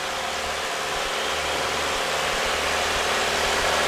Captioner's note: plane propeller